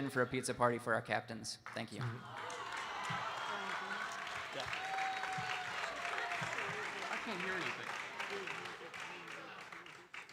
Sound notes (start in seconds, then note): 2.0 audience cheering and applauding